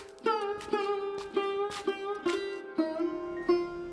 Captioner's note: steps